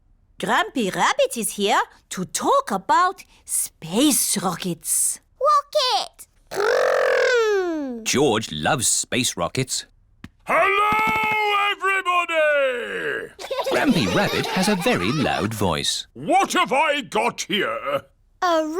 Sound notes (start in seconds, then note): 10.6 shouts; 13.4 laughter